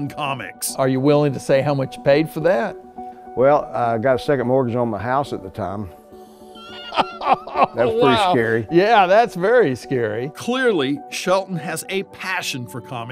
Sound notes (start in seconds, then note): 6.6 laughing